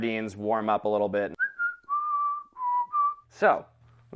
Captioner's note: whistles